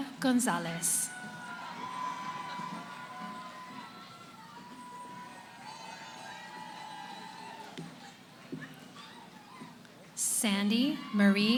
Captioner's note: cheering